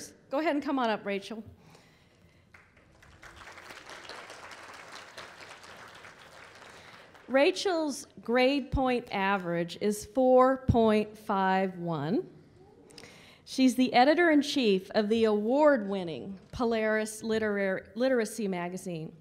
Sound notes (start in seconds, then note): 2.4 applause